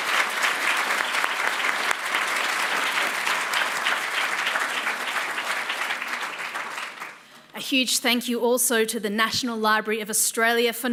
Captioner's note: applause